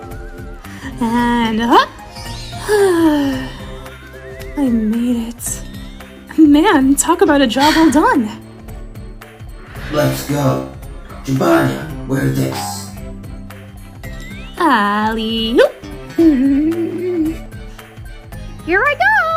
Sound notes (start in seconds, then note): 2.6 Amy exhales